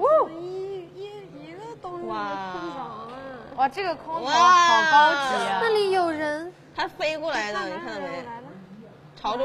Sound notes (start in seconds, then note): 8.3 gasping